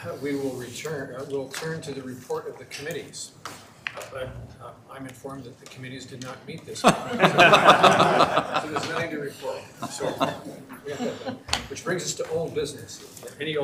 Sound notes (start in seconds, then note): 6.8 members laughing